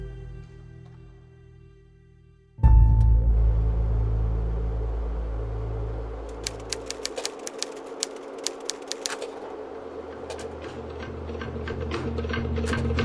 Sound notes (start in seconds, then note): 1.3 music fades; 3.3 projector clicks, whirrs; 6.3 typewriter keys clack